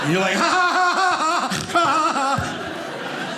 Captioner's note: audience laughing